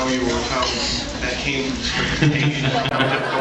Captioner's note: laughs